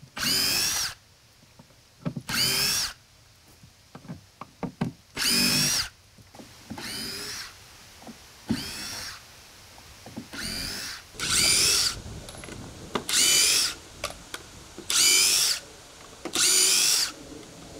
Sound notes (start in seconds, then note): none